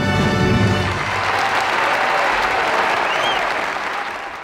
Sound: audience applauds

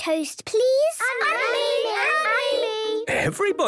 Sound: all calling out

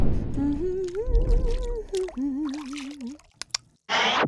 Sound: woman humming; woman clicks tongue

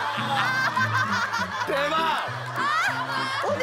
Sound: laughing

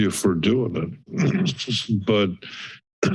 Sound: coughs; clears throat

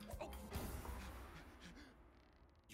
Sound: breathing heavily

